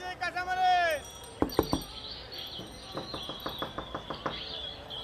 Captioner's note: knock knock